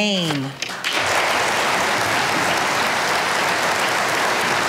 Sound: audience applauding

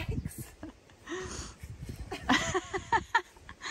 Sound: giggles

